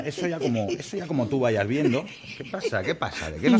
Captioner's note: laughs